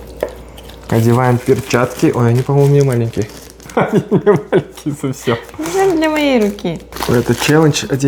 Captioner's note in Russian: смеется